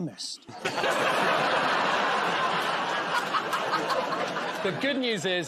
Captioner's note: laughter